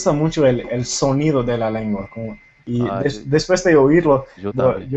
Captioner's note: Spanish